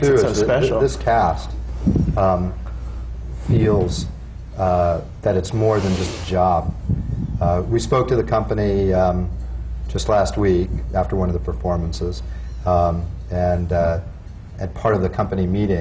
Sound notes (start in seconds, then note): none